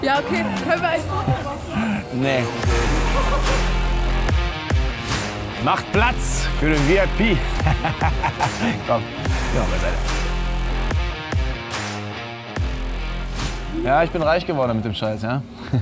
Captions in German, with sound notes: - Ja, okay. Können wir ein Foto machen? - Nee! Macht Platz! ... Für den VIP. (lacht) Komm, geh mal zur Seite. Ja, ich bin reich geworden mit dem Scheiß, ja?